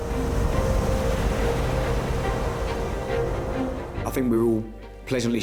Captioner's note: waves crashing; dramatic music